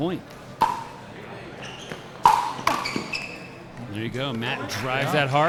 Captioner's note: ball clacking